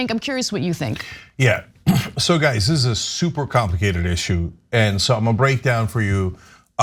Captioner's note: cough